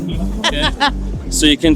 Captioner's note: laughter